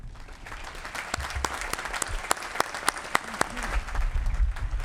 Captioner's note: applause